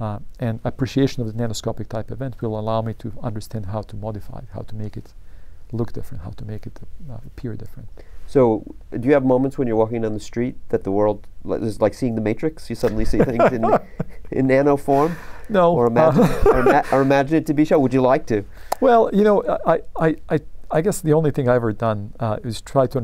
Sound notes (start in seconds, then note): 16.0 laughter